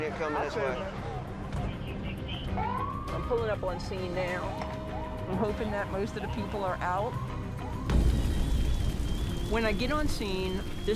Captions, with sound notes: And we've got a sprint unit coming this way. I'm pulling up on scene now. I'm hoping that most of the people are out. [fire roaring]